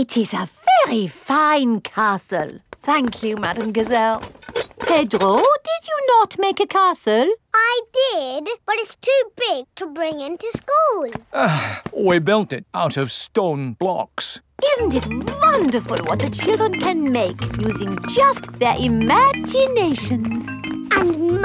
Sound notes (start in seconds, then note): 11.3 sighs